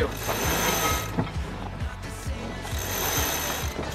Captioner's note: chain rattles